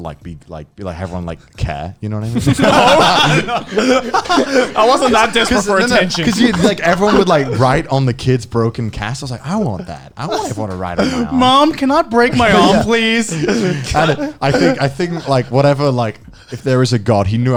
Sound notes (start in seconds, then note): 2.3 laughing